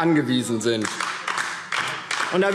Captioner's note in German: Beifall DIE LINKE